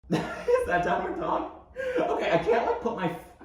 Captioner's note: laughing